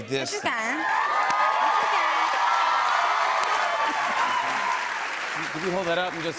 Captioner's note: cheers and applause